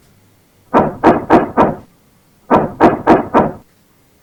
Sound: knocking on the door

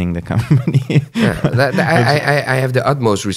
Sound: laughs

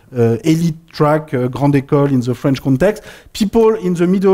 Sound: french

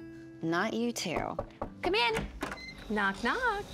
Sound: knocking

